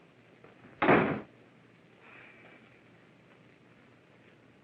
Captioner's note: door slams shut